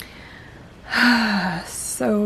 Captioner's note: beleaguered sigh